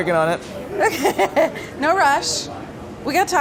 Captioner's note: laughs